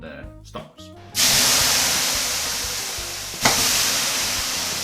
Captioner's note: water steaming